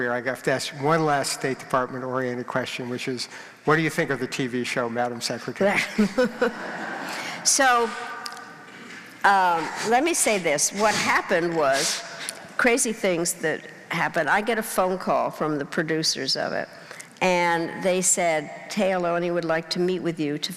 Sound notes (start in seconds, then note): 5.7 laughing